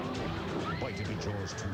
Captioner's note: scream